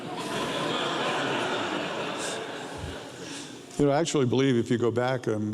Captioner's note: audience laughs